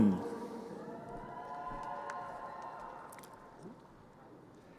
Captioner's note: crowd cheering